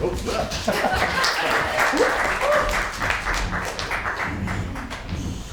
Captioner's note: applause